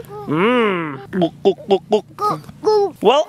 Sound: gulping

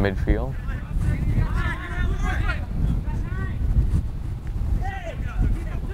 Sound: players talking and yelling

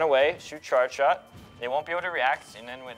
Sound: ringing

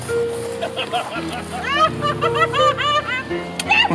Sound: laughing

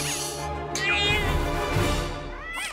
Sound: mischievous instrumental music; cat yowling

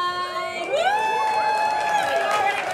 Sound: cheering

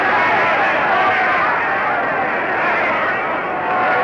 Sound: crowd cheering

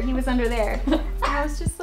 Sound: laughing

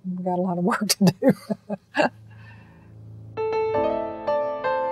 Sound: laughs; bittersweet piano music

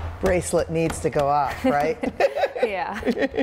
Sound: laughs

